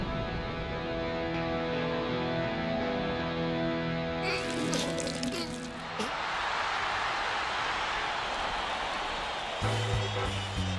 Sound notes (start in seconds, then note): 4.2 whimpers; 5.8 cheers and applause